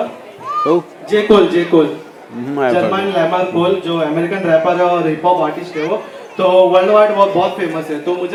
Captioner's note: speaks in Hindi - not transcribed